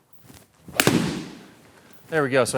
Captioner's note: loud thud